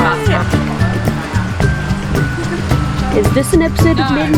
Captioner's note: street sounds and conversations